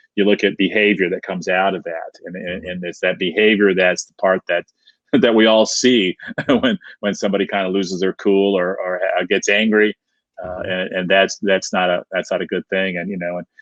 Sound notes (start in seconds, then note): 6.0 laughing